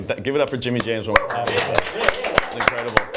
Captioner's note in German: applaus